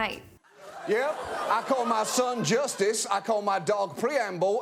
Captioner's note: audience laughing